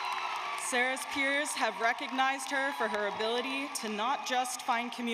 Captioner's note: cheers and applause